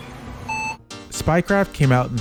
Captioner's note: 90s era computer startup sounds